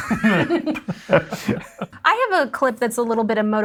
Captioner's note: both laughing